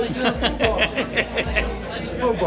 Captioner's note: laughing